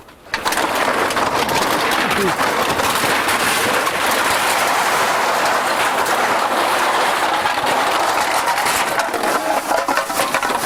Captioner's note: the sound of cans being loaded into the machine